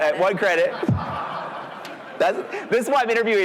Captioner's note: audience laughing